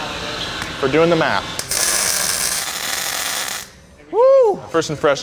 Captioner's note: weld sizzling